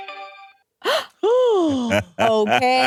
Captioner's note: gasps